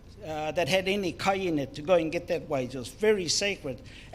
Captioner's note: speaks in foreign language